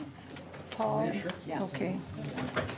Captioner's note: whispering